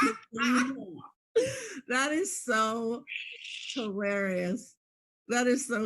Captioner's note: laughs